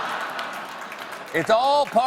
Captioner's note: laughter